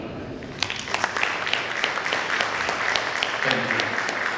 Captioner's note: audience applause